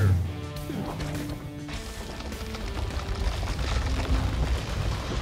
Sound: trees crashing and crunching

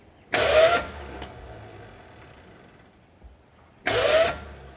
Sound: engine turning

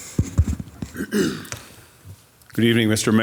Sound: attendee clears throat

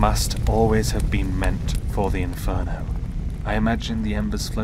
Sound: flames fading

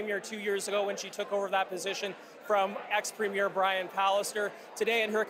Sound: none

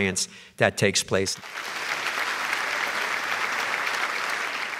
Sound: applause

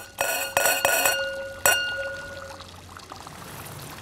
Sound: clink

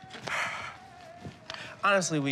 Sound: Rufus sighs

